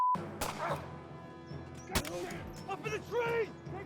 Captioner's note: gun fires